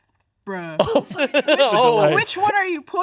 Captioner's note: laughs